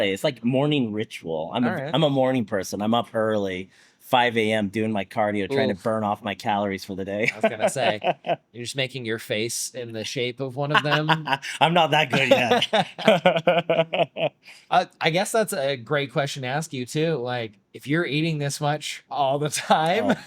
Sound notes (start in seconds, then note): 7.3 laughs; 12.1 both laughing